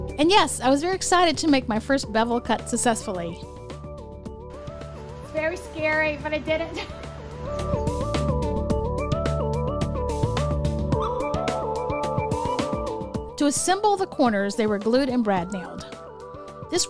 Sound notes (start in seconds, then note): 6.7 laughs